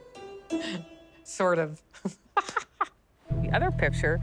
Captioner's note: laughs